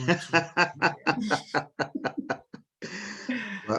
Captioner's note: laughing